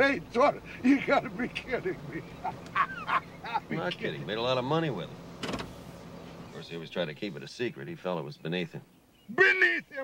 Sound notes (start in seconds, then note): 1.6 laughs